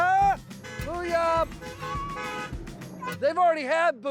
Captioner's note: cars honking